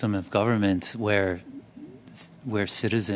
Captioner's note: speaking French